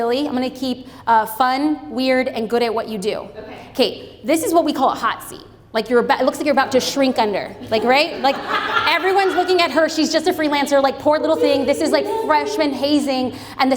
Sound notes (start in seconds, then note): 7.7 audience laughs